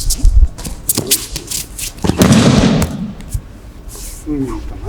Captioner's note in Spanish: sonido desplazamiento en tatami y caída